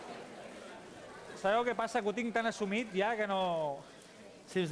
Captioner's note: non-english speech